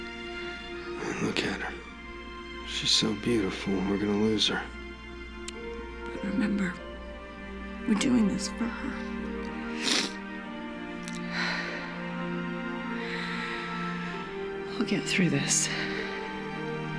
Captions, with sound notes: Look at her. She's so beautiful, and we're gonna lose her. But remember we're doing this for her. [sniffles] We'll get through this.